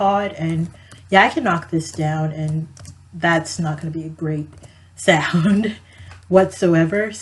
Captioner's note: laughs